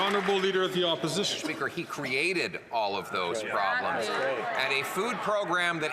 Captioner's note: some Applause